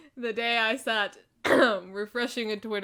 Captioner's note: clears throat